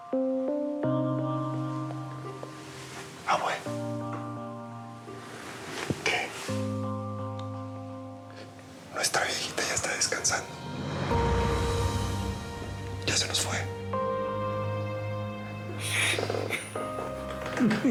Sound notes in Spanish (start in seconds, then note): 3.6 susurra